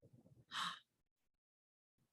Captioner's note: gasps